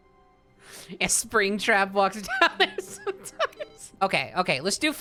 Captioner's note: reading chat, laughing